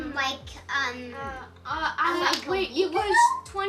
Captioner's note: children talking over each other